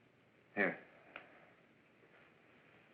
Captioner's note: none